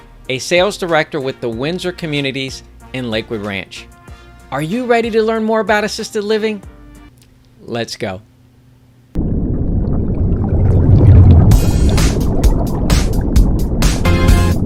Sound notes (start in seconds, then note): 9.2 water gurgling; 11.5 upbeat music